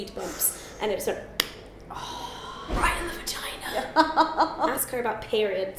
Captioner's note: laughs